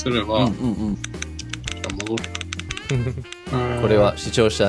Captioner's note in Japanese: クリックノイズが続きます